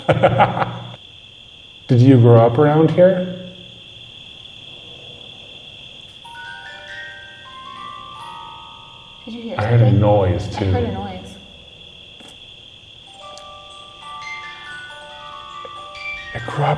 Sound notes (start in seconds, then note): 0.0 laughing; 4.0 crickets chirping; 6.2 music box chiming; 13.0 music box chiming